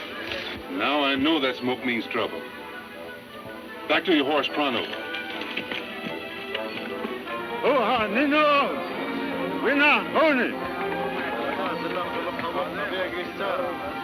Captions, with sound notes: - Now I know that smoke means trouble. Back to your horse, pronto. (speaking in foreign language)